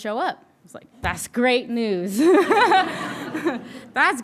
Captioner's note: all laughing